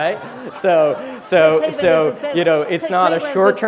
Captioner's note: laughter